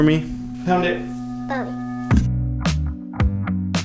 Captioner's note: chatters; soft rhythmic music